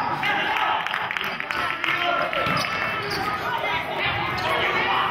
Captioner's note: applauding